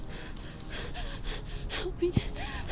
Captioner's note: none